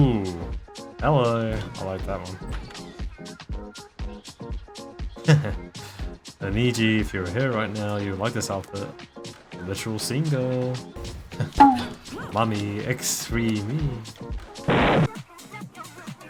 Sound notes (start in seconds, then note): 11.6 bamboo Hit SFX; 14.8 Deltarune Explosion